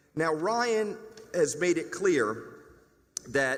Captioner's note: none